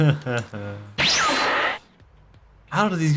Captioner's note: Dragon Ball Z Teleport SFX